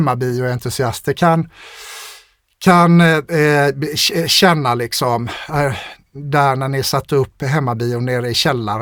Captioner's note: scoffs